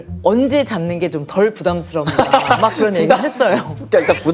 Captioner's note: hahahaha